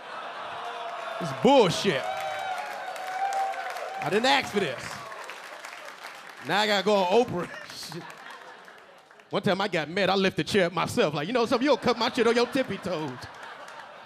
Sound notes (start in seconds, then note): 0.0 audience laughing; 2.7 audience laughing and clapping; 7.4 LilRel laughing; 11.3 audience laughing